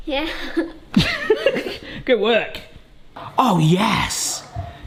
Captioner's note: laughing